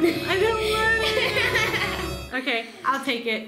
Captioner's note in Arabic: يضحك